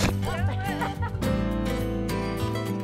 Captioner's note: calm guitar music ending; people laughing